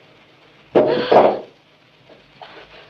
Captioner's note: gasp